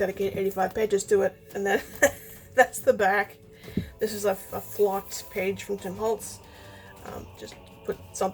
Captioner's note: laughs